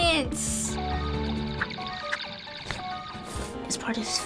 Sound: zapping

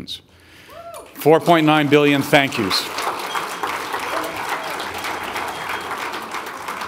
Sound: audience applauding

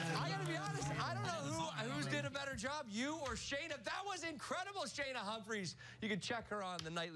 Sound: spanish

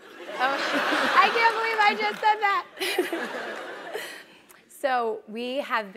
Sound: laugh

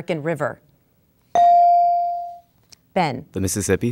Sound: dinging

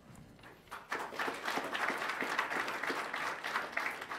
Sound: applause

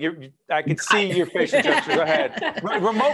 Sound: laughing

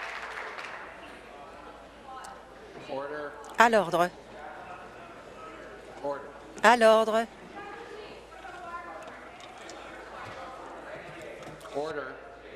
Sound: some Applause

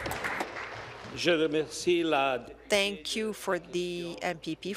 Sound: applause; speaking in French

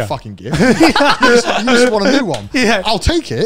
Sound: everyone laughs

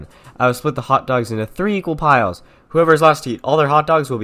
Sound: none

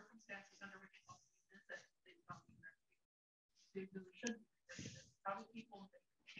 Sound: faintly speaking

